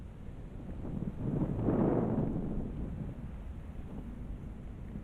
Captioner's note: wind gusting